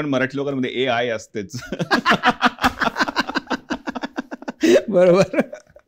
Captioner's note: laughter